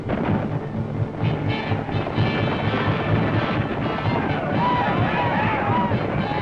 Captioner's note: native americans shouting, gunfire